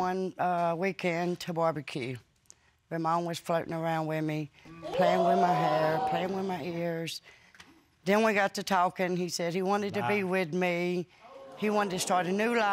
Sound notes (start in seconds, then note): 7.6 audience exclaiming